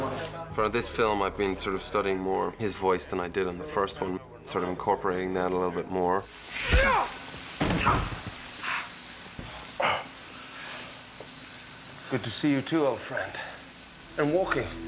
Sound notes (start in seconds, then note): 6.5 grunts; 6.6 charles groans